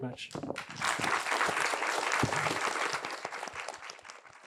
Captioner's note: applause